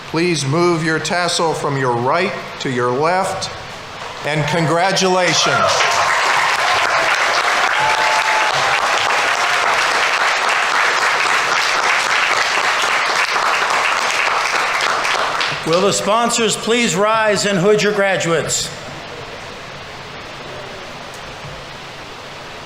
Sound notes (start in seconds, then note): 5.9 audience applauding; 5.9 audience members cheering